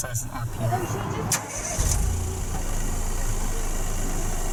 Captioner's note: starting up car engine from outside